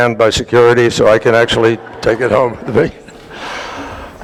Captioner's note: laughter